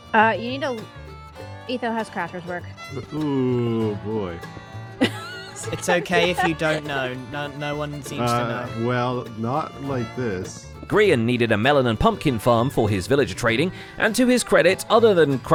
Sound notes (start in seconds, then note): 4.9 laughs